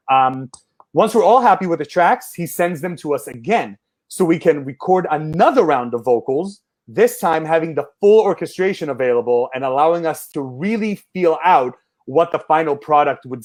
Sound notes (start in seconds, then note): none